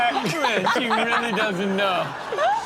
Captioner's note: everyone laughs